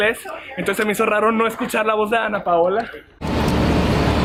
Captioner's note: voice in spanish